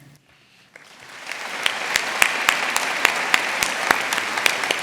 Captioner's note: audience applauding